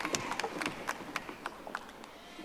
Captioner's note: audience applauding